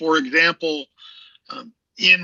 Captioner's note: laughs